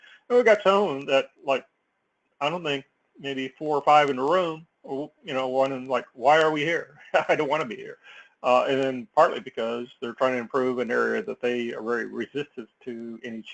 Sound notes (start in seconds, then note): 7.0 laugh